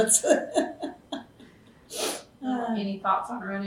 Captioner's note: laughs